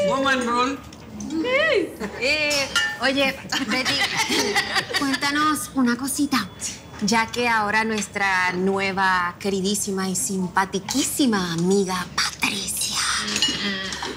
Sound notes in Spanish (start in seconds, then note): 3.6 Risas